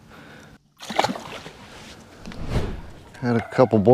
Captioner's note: water splash